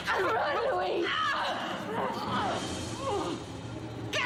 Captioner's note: Veronica grunts